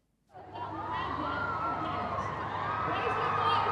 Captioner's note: crowd cheering